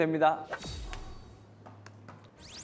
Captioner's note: snap